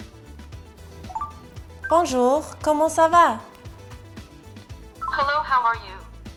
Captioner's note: French